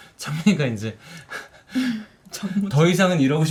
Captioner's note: chuckle